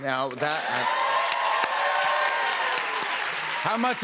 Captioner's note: cheers and applause